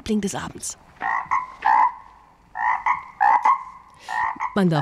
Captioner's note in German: Quak-Geräusche